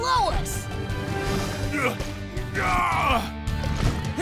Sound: grunting

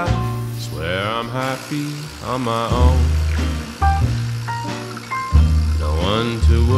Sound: coffee maker whirring

